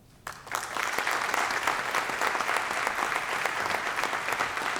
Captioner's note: applause